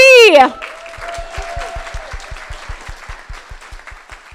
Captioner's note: crowd applauding